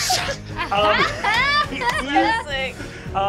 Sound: laughing

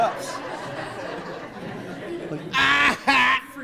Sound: attendees laughing

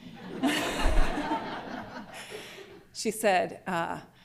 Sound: laughter

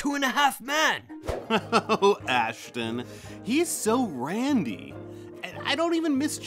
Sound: chuckling

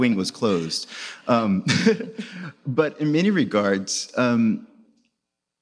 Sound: laughs

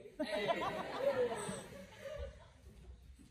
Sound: laughter

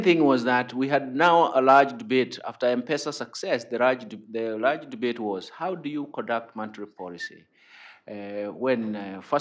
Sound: off mic

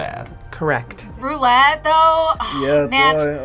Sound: sighs

